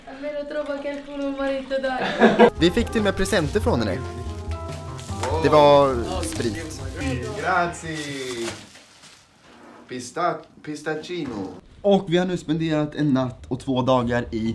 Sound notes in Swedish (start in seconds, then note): 2.0 skrattar